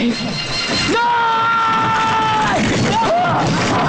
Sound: yelling

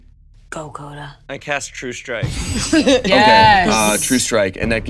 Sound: laughs

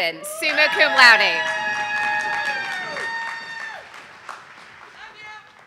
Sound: audience applauding

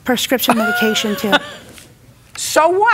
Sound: laughs

